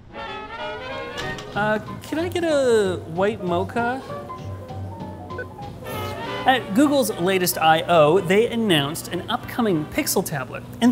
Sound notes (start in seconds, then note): 1.5 upbeat music; 5.3 machine beeps